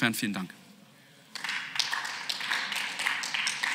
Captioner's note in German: Beifall